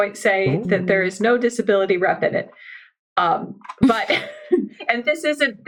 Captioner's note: laughs